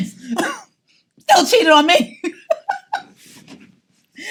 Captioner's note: laughs